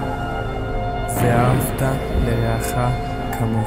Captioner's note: en hebreo